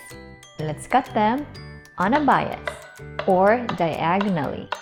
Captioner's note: knife thuds